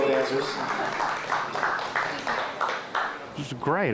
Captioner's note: audience clapping